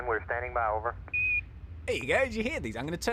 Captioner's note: beep